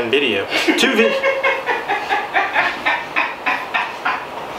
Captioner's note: woman laughing